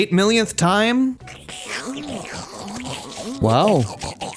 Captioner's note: horrific slorping noises